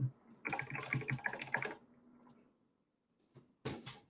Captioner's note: keyboard clacking